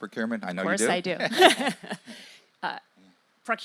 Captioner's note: laugh